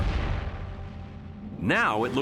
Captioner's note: space craft whooshing